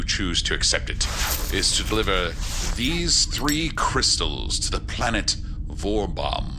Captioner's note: rustling and clinking noises